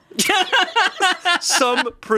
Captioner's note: laughing